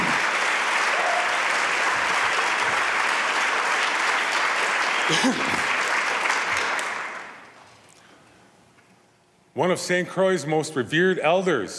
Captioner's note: applause